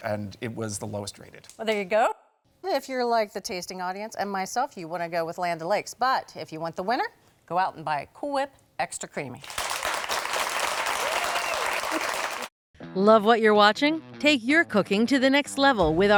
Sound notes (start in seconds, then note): 9.4 audience applauding; 9.8 audience cheering